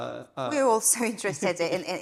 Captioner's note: chuckling